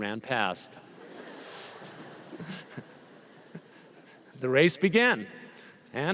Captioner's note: laughter